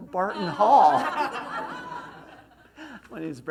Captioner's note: laughs